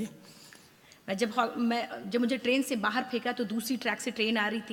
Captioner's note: speaks foreign language